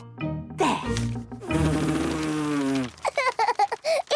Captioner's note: blows